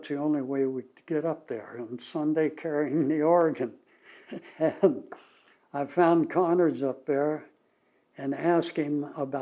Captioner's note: laughs